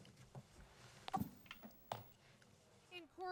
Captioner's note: tv remote clicks